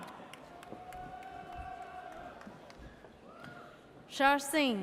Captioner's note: audience cheers